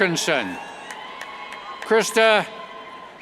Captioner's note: cheers